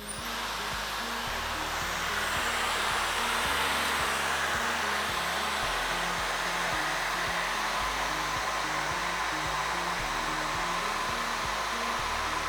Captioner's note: hair dryer sound